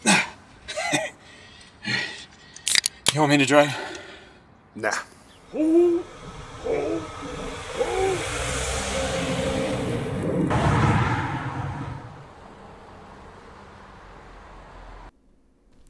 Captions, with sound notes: (chuckle) (can pops open) You want me to drive? Nah. (more dry heaving)